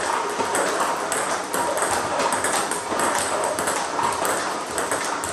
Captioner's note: ball ping pong hitting continues